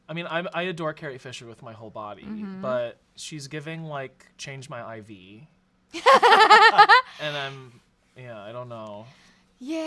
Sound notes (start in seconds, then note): 6.0 everyone laughs